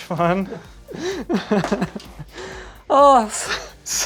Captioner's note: laughing